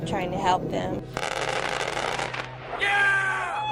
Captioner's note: plane guns rattle and burst